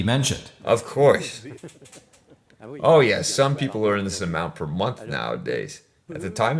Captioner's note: laughs